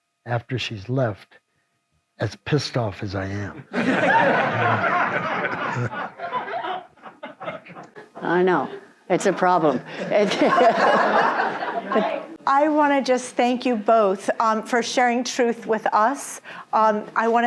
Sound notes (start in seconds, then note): 3.6 audience laughs